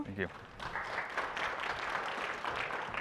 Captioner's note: applause